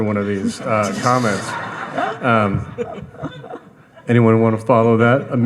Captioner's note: audience laughing